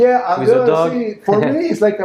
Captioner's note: laughing